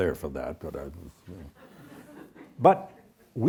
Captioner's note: audience chuckles